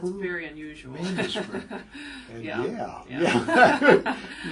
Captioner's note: laugh